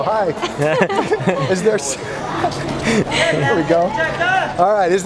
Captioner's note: laughs